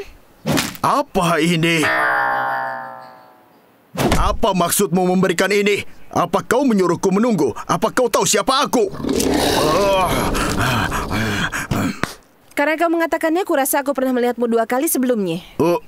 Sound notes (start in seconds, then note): 8.8 lion growling